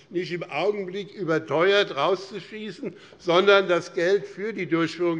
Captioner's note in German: none